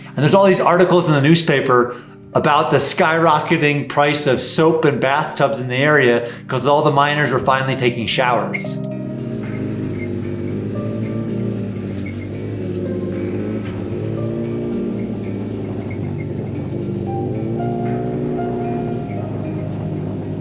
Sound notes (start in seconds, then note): 9.5 vehicle engine humming; 14.1 gentle relaxing music